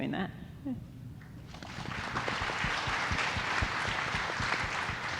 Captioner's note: audience applauding